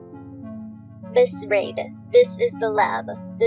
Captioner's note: none